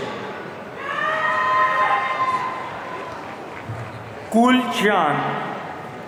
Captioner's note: audience cheering